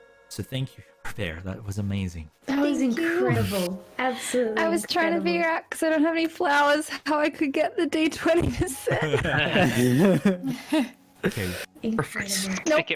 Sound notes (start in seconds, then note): 8.7 all chuckling